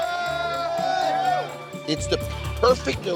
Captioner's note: patrons cheering